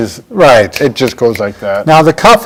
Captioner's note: snapping